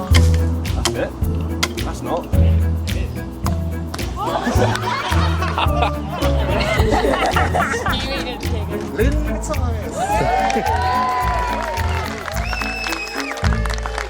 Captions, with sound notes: That's it... that's not (laughter) Lynn Matthias! (applause)